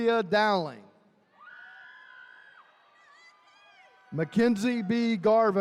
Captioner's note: attendees cheering